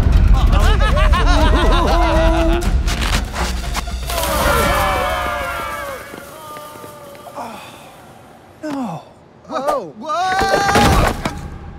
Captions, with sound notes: [Tommies laughing] [Tom sighs] Oh. Whoa! Whoa!